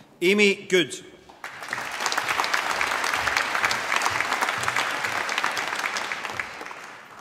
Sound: applause

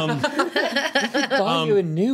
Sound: group laughs

